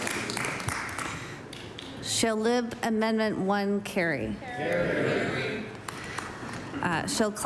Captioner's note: applause